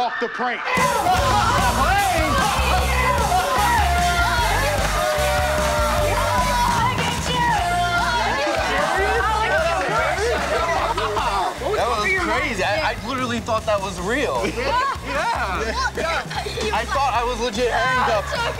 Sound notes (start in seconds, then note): 5.0 shouting gleefully; 7.1 shouting, laughing